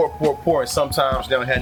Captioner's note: birds Chirping